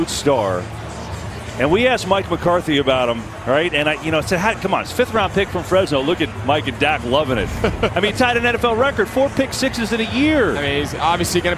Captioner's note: laughs